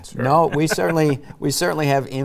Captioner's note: chuckling